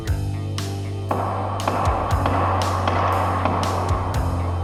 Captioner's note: pounding